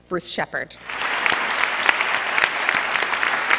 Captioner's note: applause